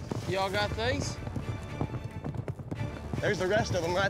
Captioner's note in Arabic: ضربات حوافر